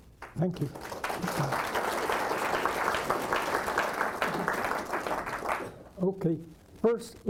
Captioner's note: applause